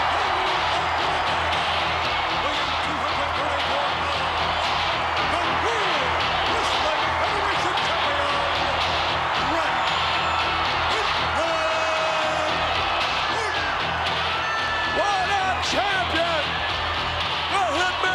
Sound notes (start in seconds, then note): 0.2 upbeat rock music; 13.9 crowd cheering